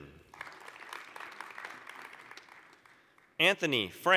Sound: applause

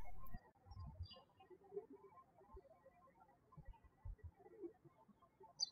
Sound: birds chirping

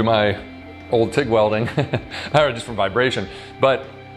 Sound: chuckles

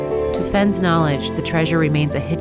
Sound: voiceover

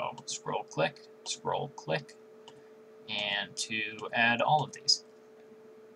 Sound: scroll click; scroll click

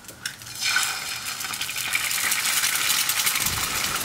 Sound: pan sizzling

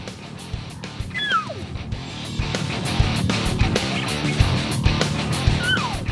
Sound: elk Bugling; cow Elk Chirp

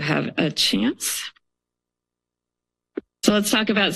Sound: pause

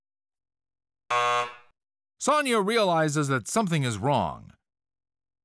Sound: buzzer sounds

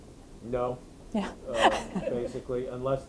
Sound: laughing

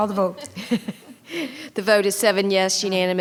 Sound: attendees laughing

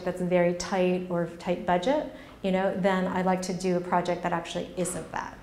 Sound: none

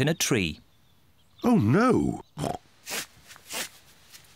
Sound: snorts

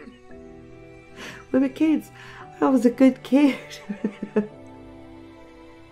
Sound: laughing

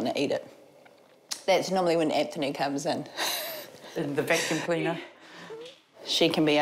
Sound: chuckles

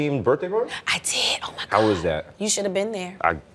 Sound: whispering

